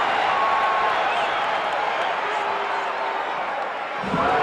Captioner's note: audience chattering